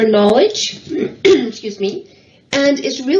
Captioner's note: coughs